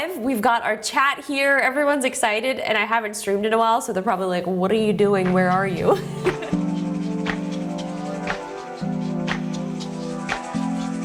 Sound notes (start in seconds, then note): 5.9 laughs; 7.1 mellow music